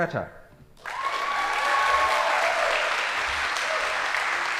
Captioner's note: audience applauding